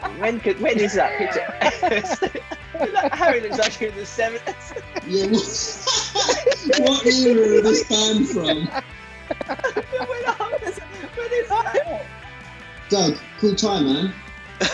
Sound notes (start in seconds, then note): 2.2 laughing; 5.3 laughing; 10.1 giggling